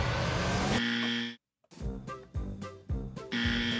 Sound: buzzer buzzing

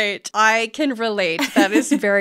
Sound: laughing

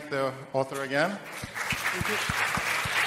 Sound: applause

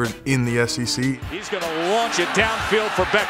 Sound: voiceover

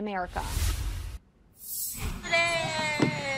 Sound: air whooshes

